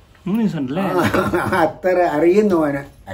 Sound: laughing

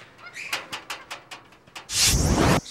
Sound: magical sound

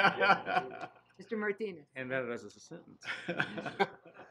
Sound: laughing

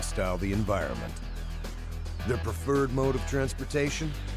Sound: voiceover

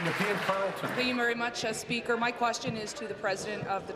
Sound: applause

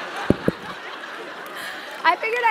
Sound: laugh

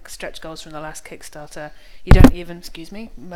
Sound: whaps mic

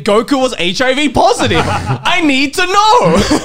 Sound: men laughing

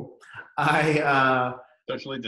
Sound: laughs

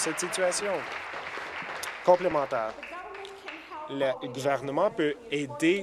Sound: applause

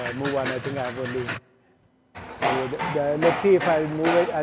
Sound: feet clatter

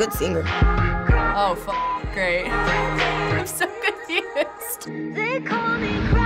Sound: laughs

